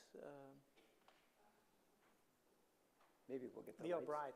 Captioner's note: background murmuring